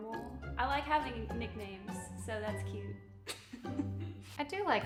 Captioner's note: laughs